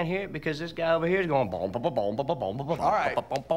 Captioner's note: imitates bubbly bass line